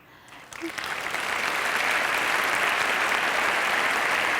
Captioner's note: audience applause